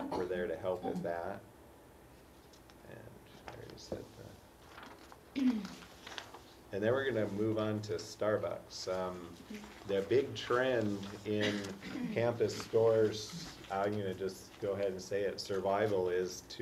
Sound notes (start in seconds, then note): 5.5 cough